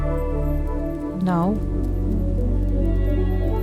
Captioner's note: footfalls padding